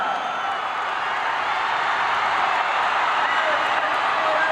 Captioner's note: crowd cheers